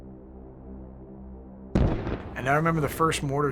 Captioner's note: loud blast